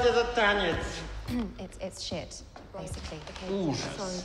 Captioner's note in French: se racle la gorge